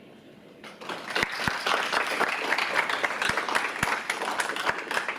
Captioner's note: audience applauds